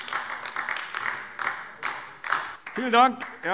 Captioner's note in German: Beifall AfD